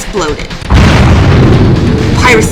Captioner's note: explosion